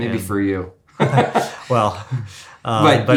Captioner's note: laughs